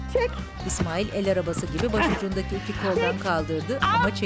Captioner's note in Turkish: Nefes sesi